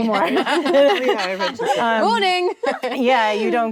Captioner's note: actresses laughing